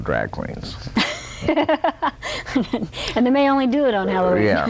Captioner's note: laughter